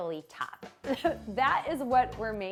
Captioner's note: chuckling